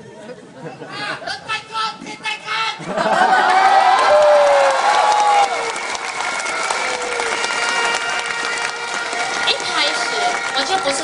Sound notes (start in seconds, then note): 5.9 crowd